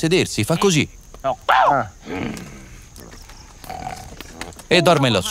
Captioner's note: baboon sounds